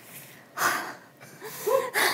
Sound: sigh

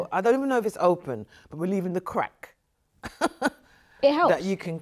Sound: chuckles

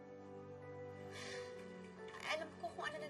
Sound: sighs

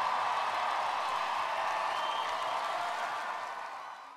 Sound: applause

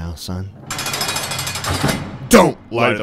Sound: prison Cell Door sound effect

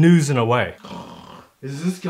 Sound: snore

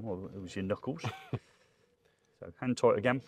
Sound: chuckles

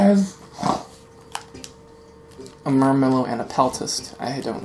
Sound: snort

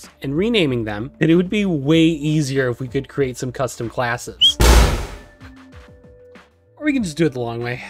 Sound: bird explode

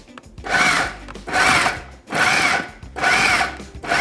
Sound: blender roaring

